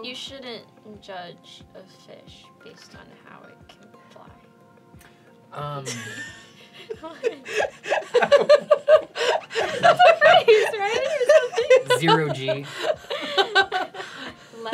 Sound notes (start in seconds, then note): 5.5 confused laughter; 7.8 increasingly confused laughter; 13.3 laughter continues